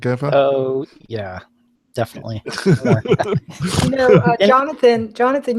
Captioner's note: both laugh